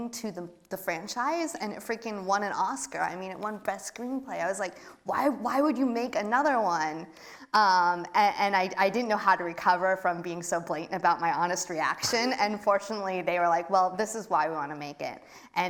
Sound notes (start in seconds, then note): none